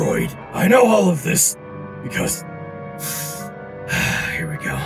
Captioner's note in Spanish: inhalación